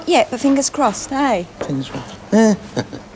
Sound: laughs

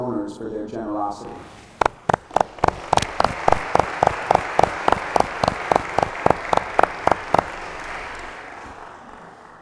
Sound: applause

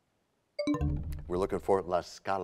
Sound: bell chimes, time expires

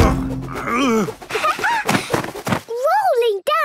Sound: laughing

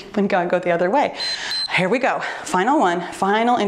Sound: timer beeps

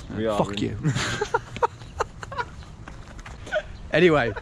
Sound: both laughing

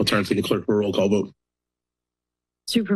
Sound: silence

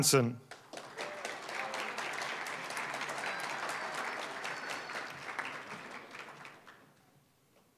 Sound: applause

